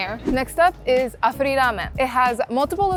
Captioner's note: wind whipping